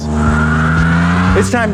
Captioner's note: engine revving and tires squealing